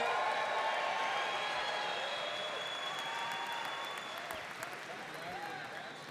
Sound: audience cheering and applauding

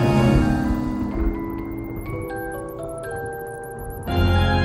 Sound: thunder rumbling; spooky organ music flourishes

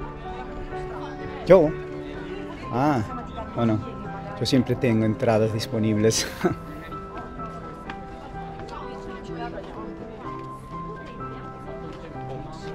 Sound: laughter

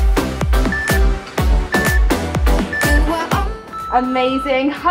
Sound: timer beeping

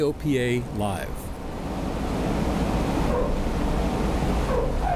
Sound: airplane rumbling

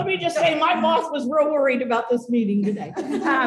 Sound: laughter

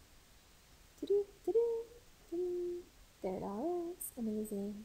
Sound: instructor humming

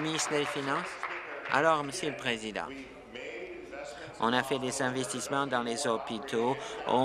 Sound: applause

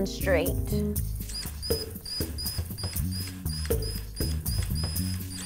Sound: whirring

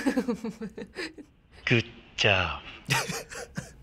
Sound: laughs; snickers

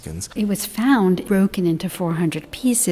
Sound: voiceover

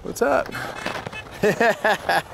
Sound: car honking; laughing

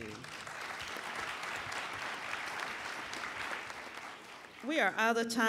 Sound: applauding

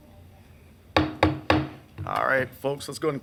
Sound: gavel banging on desk

